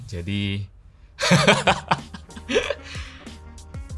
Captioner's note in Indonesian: tertawa